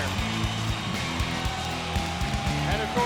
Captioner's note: crowd cheering